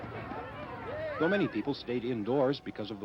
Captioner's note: crowd reacting